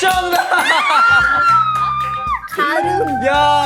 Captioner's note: screaming